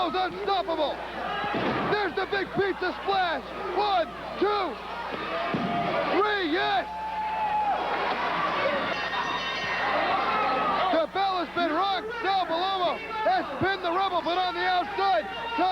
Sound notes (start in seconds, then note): 8.6 bell ringing